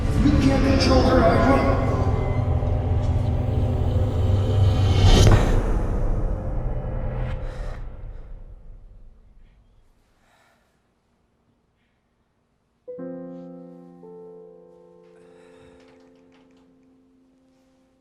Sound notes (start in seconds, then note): 5.4 gasps; 12.8 gentle piano music